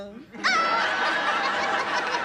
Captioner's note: laughing